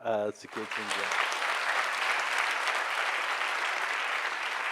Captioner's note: clapping